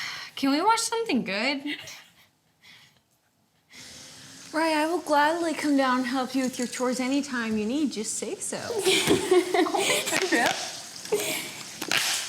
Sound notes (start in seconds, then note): 8.8 laughs